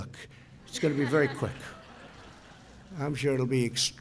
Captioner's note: laughter